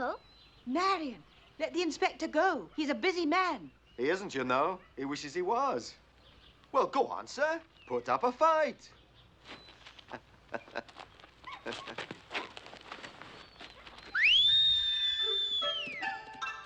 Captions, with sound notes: Marion, let the inspector go, he's a busy man! He isn't, you know. He wishes he was. Well, go on sir, put up a fight! [chuckles] [whistles]